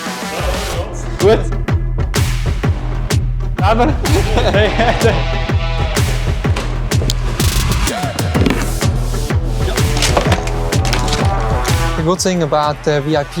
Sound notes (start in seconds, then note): 0.2 both laughing; 0.2 upbeat music; 7.2 objects thudding